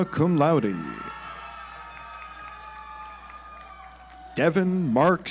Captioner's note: audience applauds